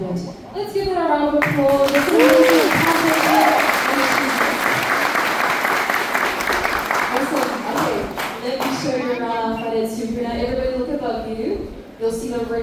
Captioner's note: applause